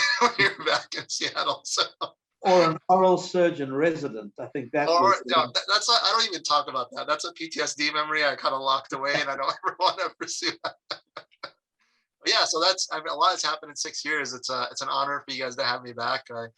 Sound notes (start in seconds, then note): 10.3 laugh